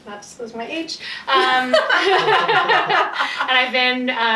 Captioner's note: laughing